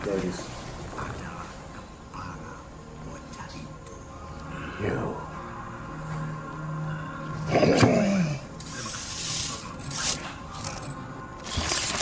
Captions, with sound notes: There it is. - You. (Adika grunts)